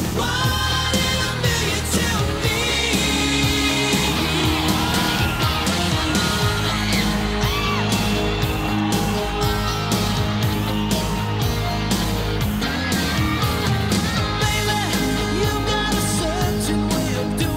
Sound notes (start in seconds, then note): 5.1 crowd cheering